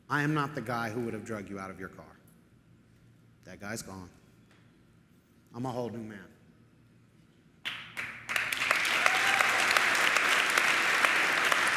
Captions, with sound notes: I am not the guy who would've drug you out of your car. That guy's gone. I'm a whole new man. [audience applauding]